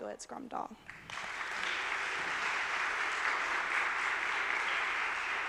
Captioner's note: audience applauding